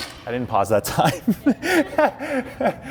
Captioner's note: laughing